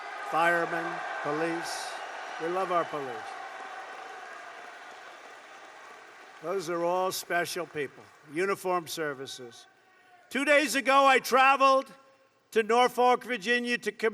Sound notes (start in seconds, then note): 3.3 applause